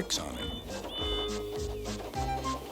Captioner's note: toot toot